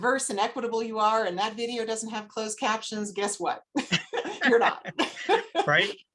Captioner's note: laughter